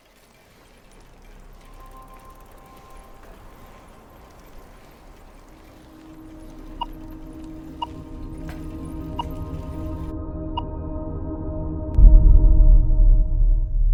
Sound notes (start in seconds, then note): 1.6 suspenseful orchestra music; 7.0 clock beeps